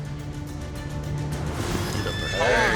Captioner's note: horse whinnies